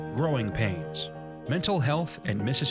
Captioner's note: voiceover